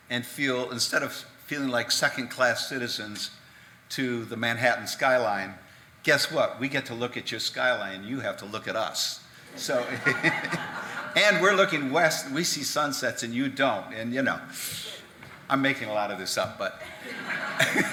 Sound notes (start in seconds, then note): 10.9 audience clapping